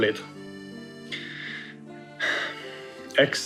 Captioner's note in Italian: Sospira